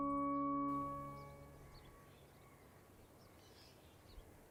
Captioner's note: birds chirping